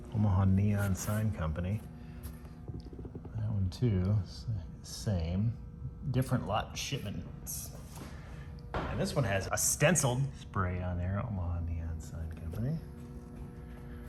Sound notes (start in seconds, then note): none